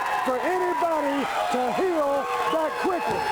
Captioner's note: crowd cheering